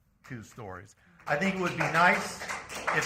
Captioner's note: applause